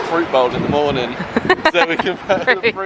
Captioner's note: chuckling